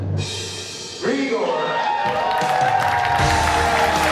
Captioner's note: cheering